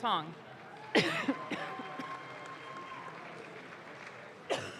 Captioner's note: audience claps